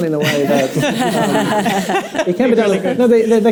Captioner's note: panel members laugh